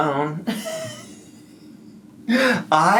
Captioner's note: laughs